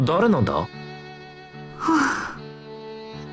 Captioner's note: sigh